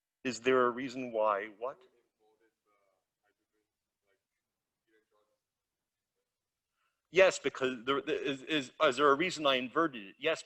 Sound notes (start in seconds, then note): 2.2 student speaking faintly